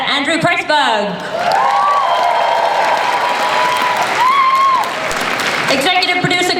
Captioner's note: audience cheers